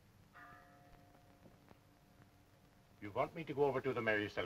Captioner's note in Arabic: رنين الجرس